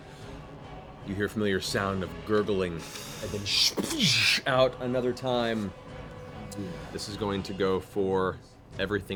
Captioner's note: liquid spray